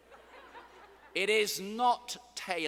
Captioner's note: students laughing